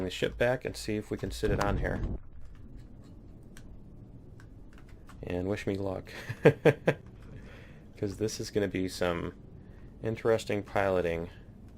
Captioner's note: laughs